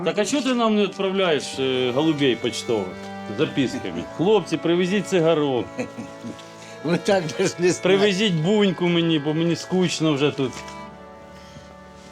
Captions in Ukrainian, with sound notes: -Так а що ти нам не відправляєш голубів поштових, з записками? "Хлопці, привезіть цигарок!" [сміх] -От так - навіть не знаю. -"Привезіть буньку мені, бо мені скучно вже тут!"